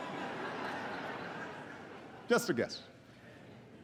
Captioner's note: laughter